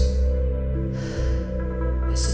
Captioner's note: low sigh of relief